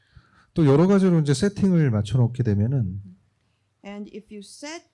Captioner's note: speaking korean